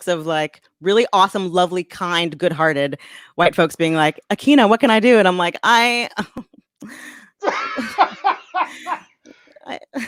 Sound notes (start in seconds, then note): 7.5 laughs